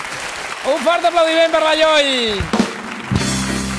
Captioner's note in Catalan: aplaudiments